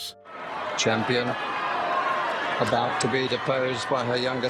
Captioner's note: crowd cheering